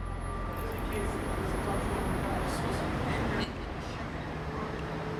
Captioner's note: passersby chattering